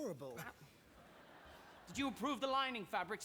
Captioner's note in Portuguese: audience laughing